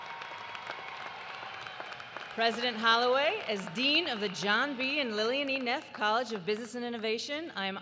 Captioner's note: cheers and applause